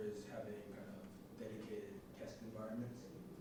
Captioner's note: none